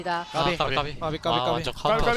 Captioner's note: BuZz